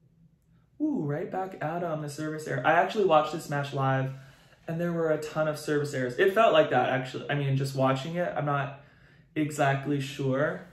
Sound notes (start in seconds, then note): none